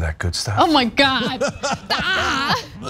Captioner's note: laugh